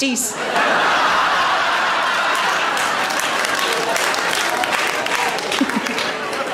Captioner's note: audience Laughs And Claps